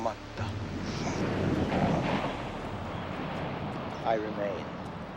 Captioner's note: waves crashing